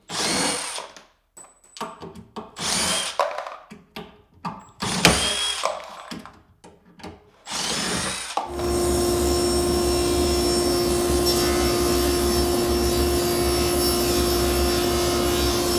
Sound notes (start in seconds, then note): 0.1 drill whirring; 4.8 drill whirring; 7.5 saw whirring